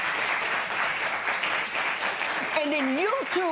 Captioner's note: applause